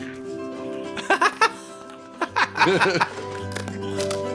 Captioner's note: munch, munch; chomp, chomp